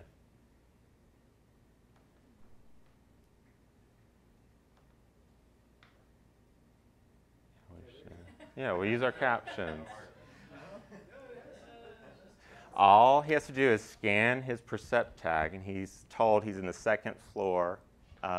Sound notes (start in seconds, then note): 6.3 laughter